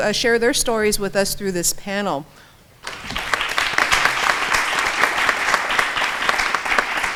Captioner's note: applause